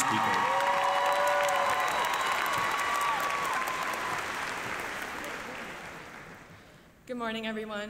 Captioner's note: applause